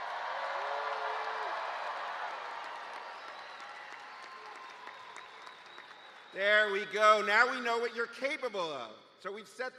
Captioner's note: cheers and applause